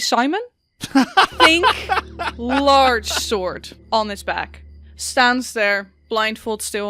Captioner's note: laughs